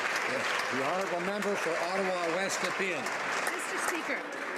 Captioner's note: some Applause